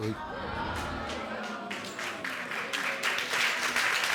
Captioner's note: audience clapping